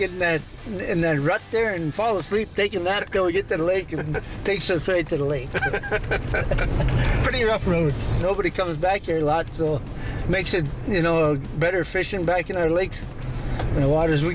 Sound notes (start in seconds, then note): 5.4 laughs